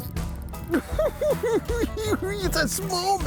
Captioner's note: cackling